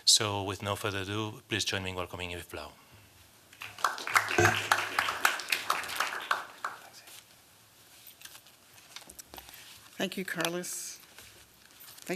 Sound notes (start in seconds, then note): 3.5 applause